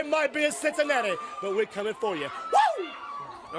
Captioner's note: crowd cheering